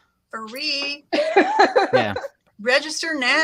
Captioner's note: laughs